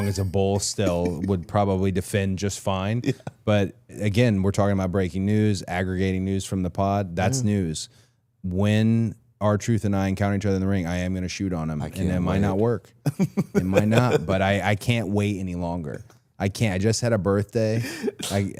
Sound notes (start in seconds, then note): 13.0 Chad laughs